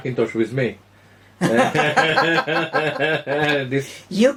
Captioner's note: general laughter